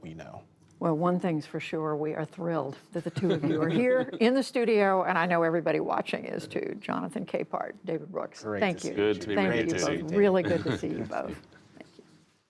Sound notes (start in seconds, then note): 4.8 laughter